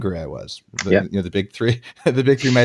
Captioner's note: laughs